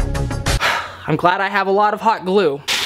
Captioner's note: sighing